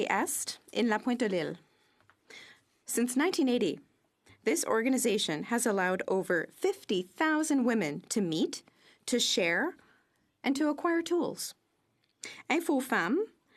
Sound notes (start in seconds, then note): 4.0 speaking French